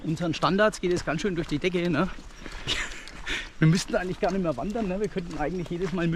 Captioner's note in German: lacht